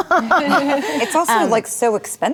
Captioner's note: laughing